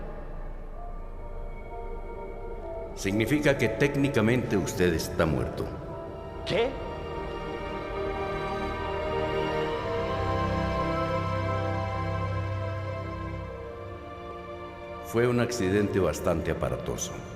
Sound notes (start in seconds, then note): none